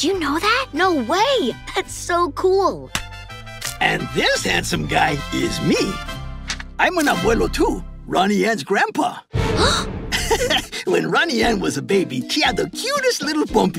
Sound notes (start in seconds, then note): 9.1 gasping; 10.1 laughing